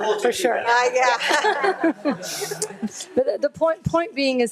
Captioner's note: all laughing